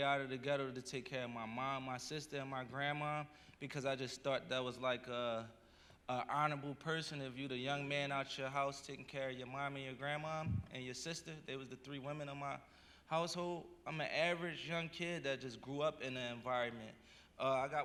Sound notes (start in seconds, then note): none